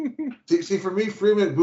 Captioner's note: laughs